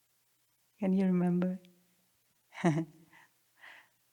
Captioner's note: chuckles